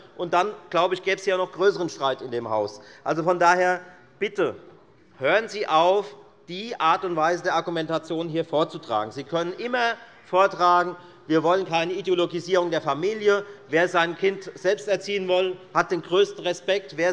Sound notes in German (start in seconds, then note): none